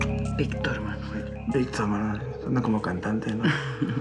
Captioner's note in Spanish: sonido al marcar teléfono; ella ríe